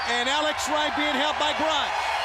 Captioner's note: crowd cheering